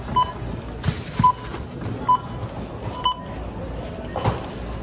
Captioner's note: cash register beeping